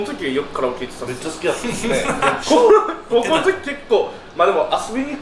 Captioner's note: laughs